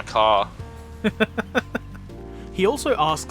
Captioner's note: laughs